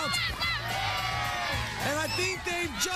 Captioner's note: cheering